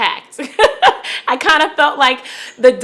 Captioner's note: laughing